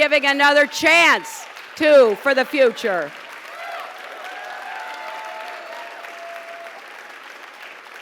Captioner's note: applause